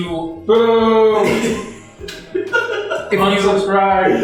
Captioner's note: laughs